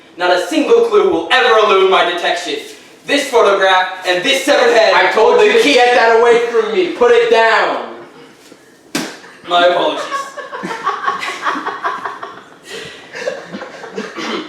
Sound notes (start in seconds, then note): 8.9 head hitting the floor; 9.8 audience laughing